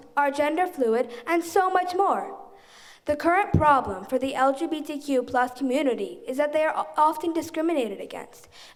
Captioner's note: none